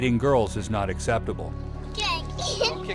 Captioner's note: kids laughing